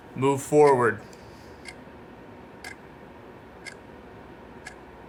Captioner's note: clock ticking